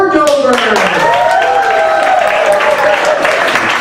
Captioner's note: applause